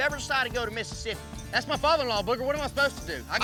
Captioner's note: angrily shouts